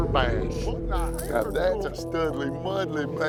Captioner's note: fishing rod casting